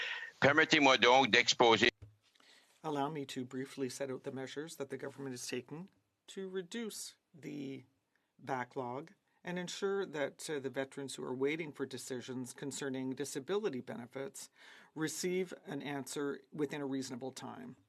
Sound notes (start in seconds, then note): 4.1 speaking French